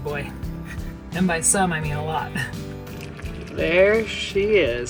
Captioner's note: chuckles